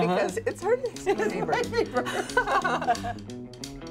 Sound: laughter; jazz music

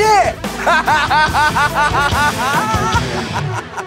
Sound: Pauly laughing

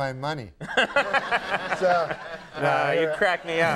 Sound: Conan and audience laughs

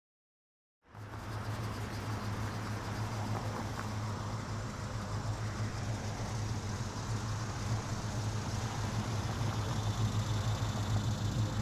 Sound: engine running

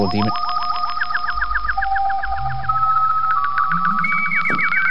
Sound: spooky sci-fi sounds

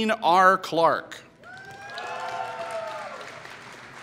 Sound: applause

